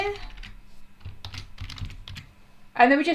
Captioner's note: types loudly